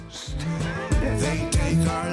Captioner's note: Joe laughs